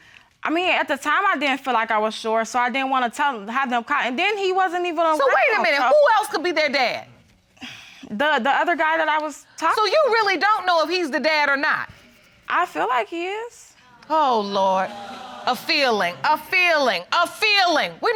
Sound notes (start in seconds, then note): 7.5 sighs; 14.8 audience exclaiming